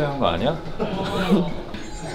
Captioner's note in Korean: 헤헤